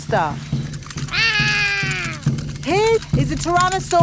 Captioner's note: roaring